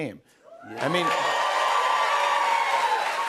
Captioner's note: cheers and applause